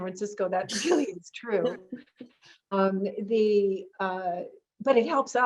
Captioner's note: chuckles